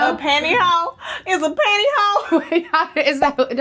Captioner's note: laughs